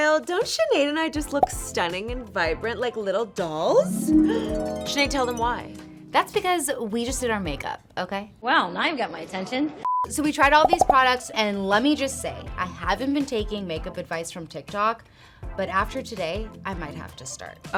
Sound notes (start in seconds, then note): 3.8 harp music; 10.6 beep